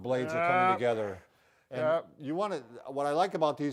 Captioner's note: groans